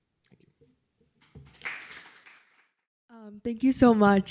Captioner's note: applause